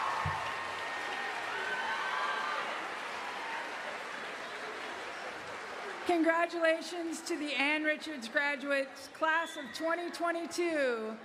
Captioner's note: cheering and applause